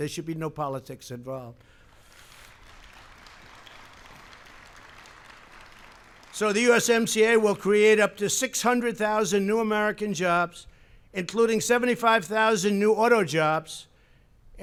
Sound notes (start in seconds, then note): 1.8 applause